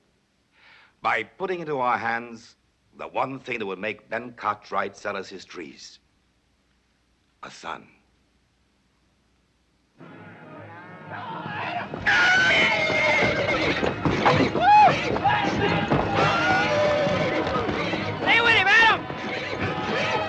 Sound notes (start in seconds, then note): 12.0 neighing